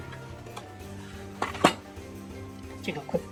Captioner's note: clunk